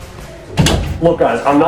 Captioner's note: door opens